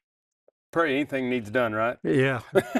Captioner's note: laughs